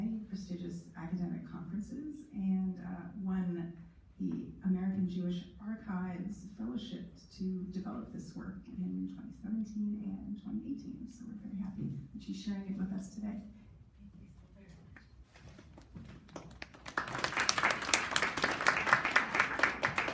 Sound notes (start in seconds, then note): 16.2 clapping